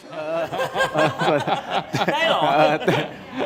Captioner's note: laughs